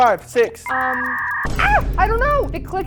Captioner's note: buffer whirring